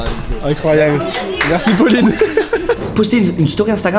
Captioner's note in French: rire